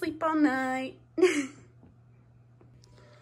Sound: laughs

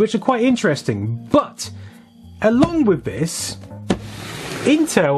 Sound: thud

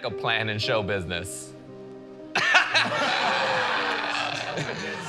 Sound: laughter

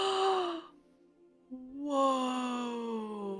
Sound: gasp

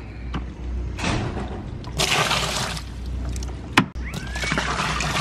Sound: water splashing

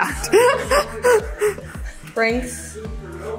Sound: laughs

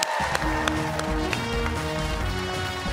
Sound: cheers and applause

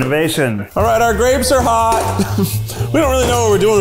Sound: chuckles

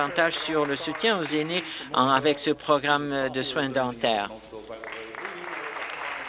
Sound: applause

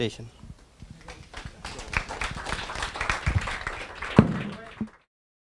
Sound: audience applause

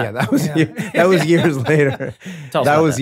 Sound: laughs

